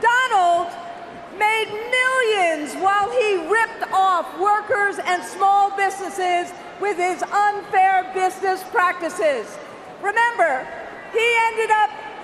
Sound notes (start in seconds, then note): none